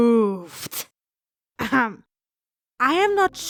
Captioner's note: cough